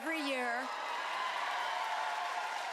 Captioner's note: cheering